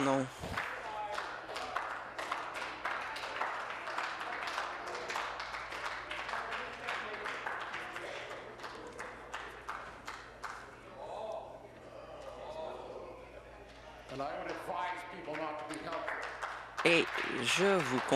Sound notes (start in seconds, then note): 6.5 scattered applause